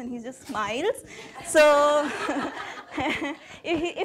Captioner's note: laughing